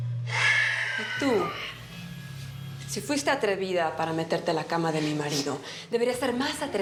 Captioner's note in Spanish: él exhala